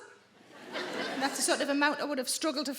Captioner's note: audience laughing